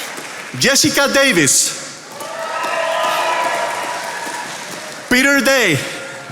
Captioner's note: attendees applauding